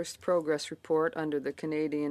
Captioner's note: speaking French